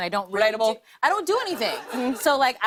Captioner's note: laughter